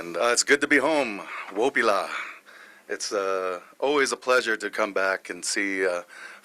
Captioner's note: speaking native language